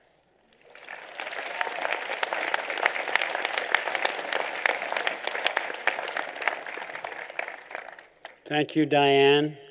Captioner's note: applause